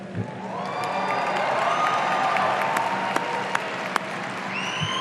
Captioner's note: audience cheering